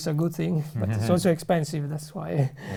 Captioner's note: laughs